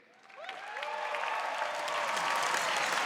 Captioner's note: applause